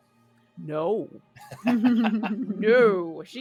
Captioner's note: people laughing